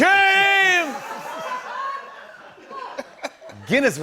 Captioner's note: laughter